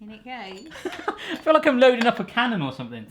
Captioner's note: laughing